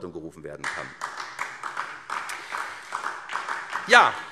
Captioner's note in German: Beifall SPD